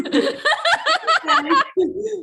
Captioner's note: laughs